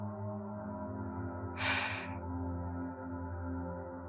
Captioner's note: sighs